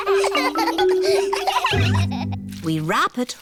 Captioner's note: snorts; all laughing